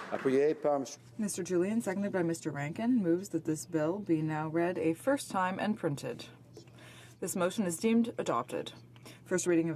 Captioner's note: applause